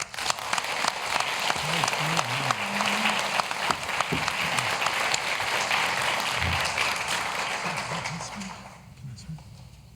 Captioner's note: applause